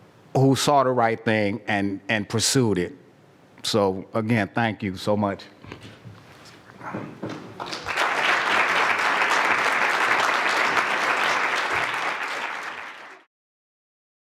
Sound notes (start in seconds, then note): 7.5 applause